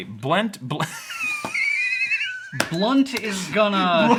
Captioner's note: laughing